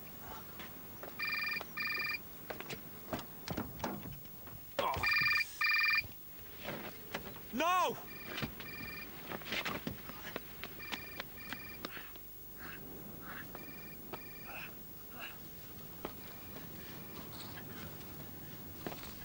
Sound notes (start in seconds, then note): 0.8 mobile phone rings; 8.0 mobile phone ringing in background